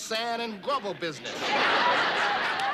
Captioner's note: laughter